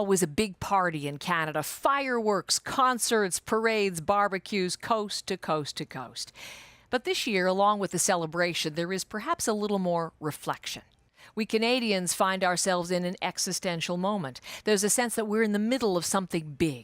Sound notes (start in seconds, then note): none